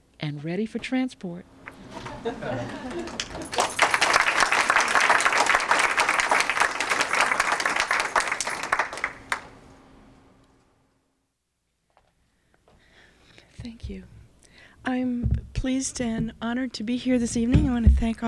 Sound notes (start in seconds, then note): 2.0 laughter; 2.9 applause